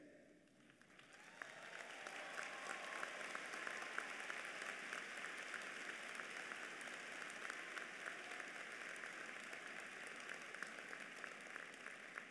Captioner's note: applause